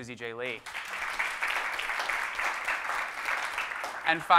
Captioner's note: audience clapping